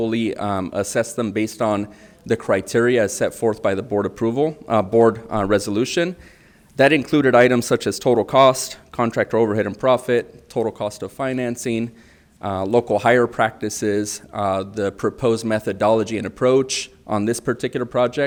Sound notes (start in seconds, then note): none